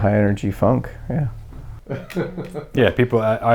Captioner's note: laughing in background